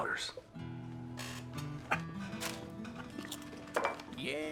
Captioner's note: laughs